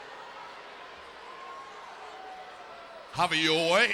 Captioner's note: attendees cheering